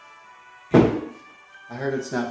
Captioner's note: router bangs on table